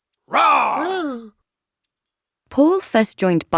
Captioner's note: Paul roaring; man yelping